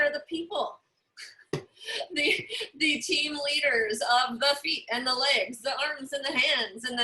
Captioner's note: laughter